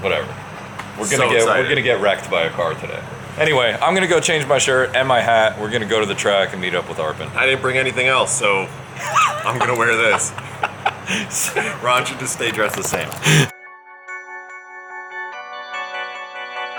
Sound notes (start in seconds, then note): 8.9 laughing; 13.6 suspenseful music